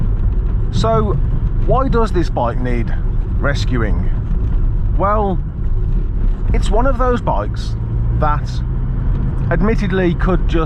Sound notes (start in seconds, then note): none